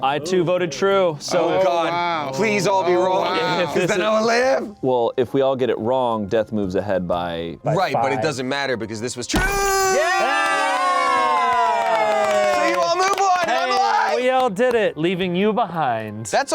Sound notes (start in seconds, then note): 9.6 cheering